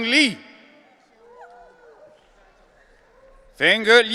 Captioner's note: audience cheering